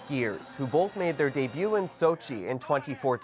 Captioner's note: cheers and Applause